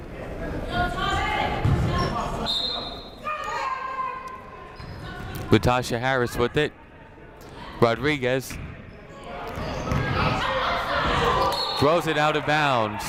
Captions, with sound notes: (whistle blows) Latasha Harris with it. Rodriguez, throws it out of bounds.